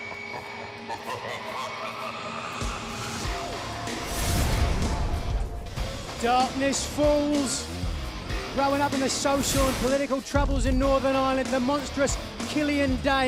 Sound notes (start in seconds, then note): 2.2 evil laughter